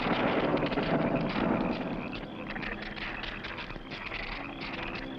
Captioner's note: strange animal sounds